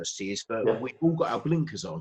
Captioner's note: murmurs